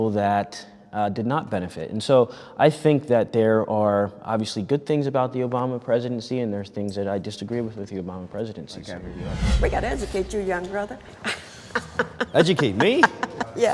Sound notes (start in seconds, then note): 11.2 lady laughs